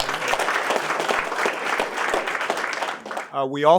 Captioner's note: applause and Cheering